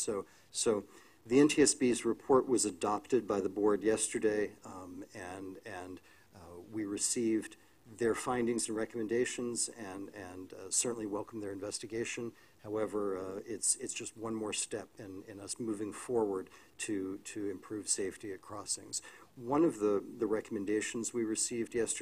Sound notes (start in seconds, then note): none